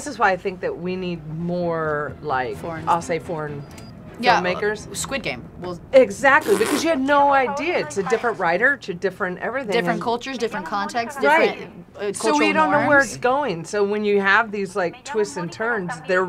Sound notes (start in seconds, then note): none